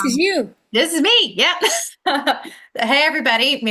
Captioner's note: laughs